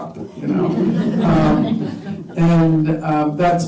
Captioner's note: laughter